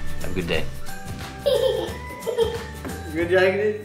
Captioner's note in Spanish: Chica riendo